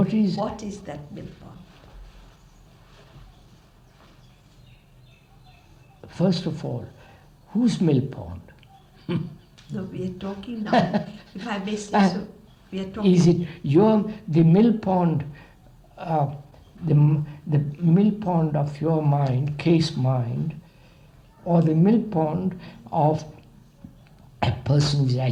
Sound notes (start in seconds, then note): 8.6 laughs